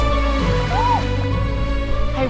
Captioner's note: cold water squeal